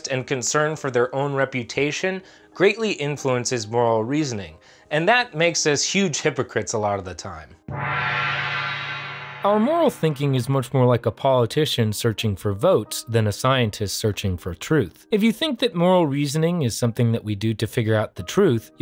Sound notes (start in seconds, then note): 7.7 gong rings